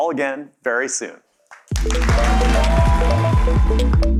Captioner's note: applause